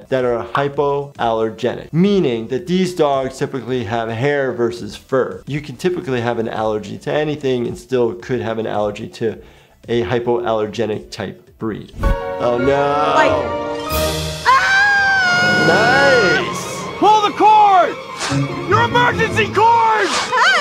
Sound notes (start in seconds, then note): 14.4 screaming